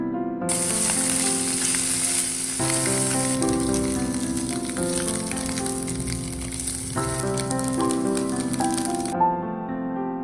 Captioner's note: cooking/sizzling asmr